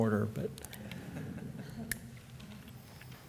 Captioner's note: laughter